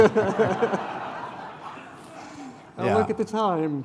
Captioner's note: laughter